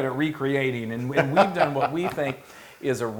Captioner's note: laugh